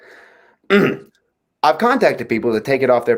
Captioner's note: Daryl's throat clearing